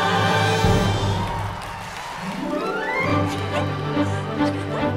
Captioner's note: audience applauding; bouncy upbeat orchestral music